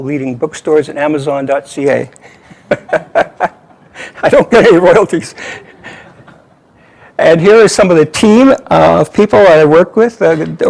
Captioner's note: laughter